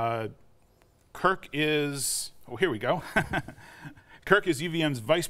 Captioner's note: chuckles